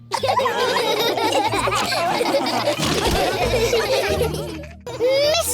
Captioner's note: laughter